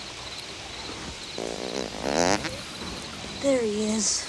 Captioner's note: gang member farts